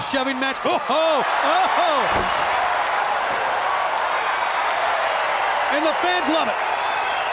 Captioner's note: crowd cheering